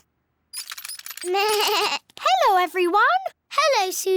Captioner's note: bleats